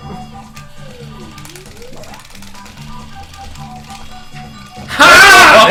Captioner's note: rapidly taps the button on his controller; haaaa!!